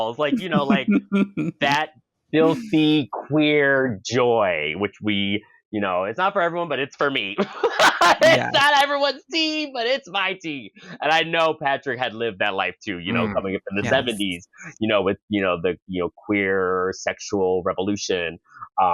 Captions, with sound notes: Like, you know, like, that filthy queer joy, which we you know, it's not for everyone, but it's for me. (cackles) It's not everyone's tea, but it's my tea. And I know Patrick had lived that life too, you know, coming up in the 70s, you know, with the queer sexual revolution.